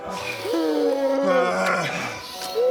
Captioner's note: urgggggggh